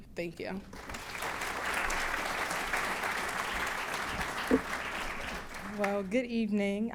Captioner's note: applause